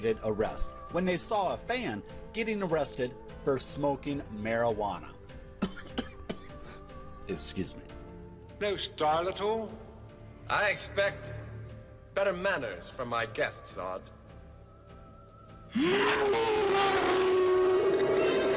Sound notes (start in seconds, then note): 5.5 coughing; 15.8 suspenseful music